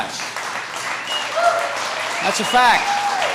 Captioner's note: applause